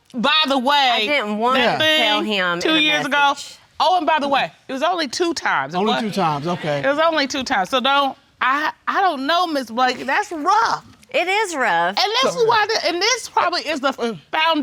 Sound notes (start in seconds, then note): 8.5 stammering